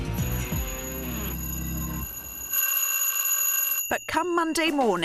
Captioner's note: alarm clock buzzing